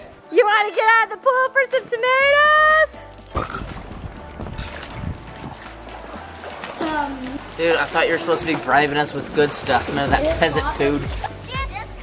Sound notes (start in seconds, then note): 3.6 splashes